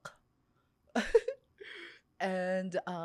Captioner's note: laughs